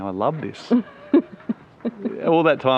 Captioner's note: laughing